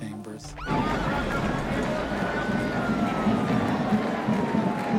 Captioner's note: sirens wailing